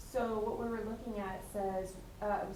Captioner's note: attendee Through Translator